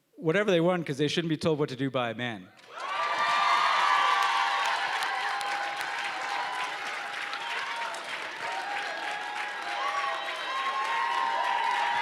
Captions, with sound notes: - Whatever they want, because they shouldn't be told what to do by a man. (loud applause and cheering)